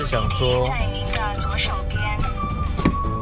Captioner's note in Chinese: 導航的聲音